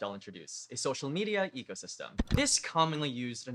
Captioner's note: click